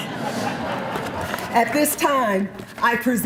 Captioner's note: laughter